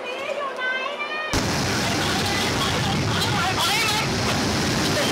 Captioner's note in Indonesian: suara gelombang tsunami